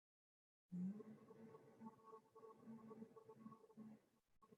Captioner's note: humming